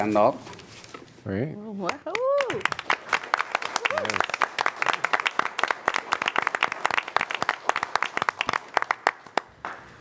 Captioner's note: applause